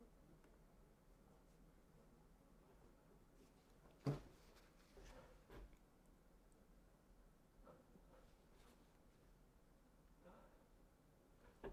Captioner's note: silence